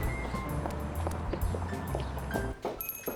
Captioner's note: footsteps; doorbell jingles